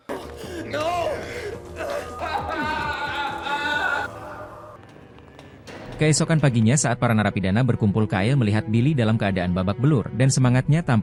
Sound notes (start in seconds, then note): 0.0 laughs